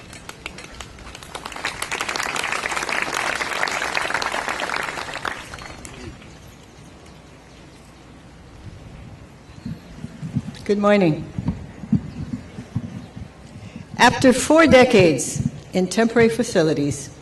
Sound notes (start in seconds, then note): 0.0 clapping